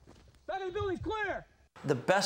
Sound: voiceover

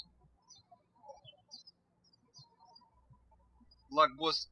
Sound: birds chirping

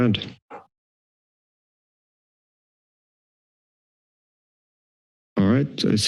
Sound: silence

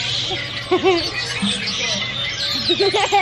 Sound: laughs

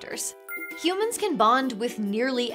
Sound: gentle chime

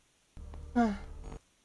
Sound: moan

